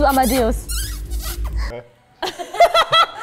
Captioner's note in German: Kusslaute, dann Lachen